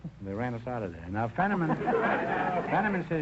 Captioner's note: audience laughter